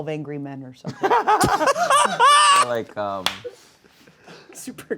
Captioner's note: laughs